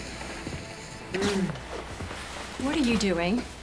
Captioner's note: Katie groans